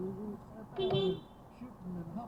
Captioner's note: beepbeep